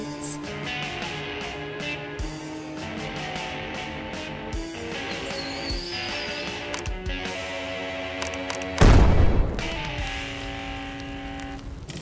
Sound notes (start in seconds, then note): 0.2 dramatic music; 8.8 explosion booms